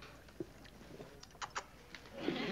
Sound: kissing sound

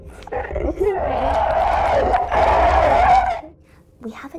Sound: Dostoevsky screeches

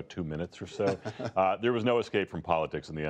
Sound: laughter

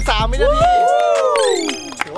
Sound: applauding

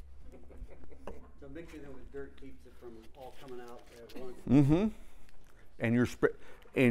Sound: laugh

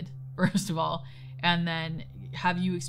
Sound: laughing

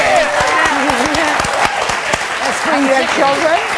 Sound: audience applauds; audience cheers

